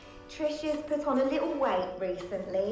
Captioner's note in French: none